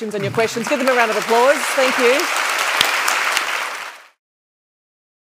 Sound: audience applauds

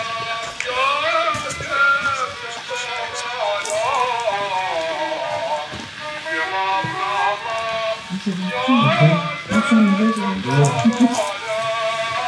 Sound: clap

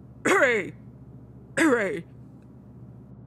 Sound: cough

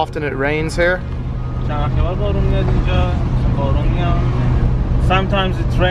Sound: speaking foreign language

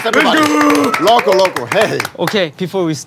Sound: sound of clapping

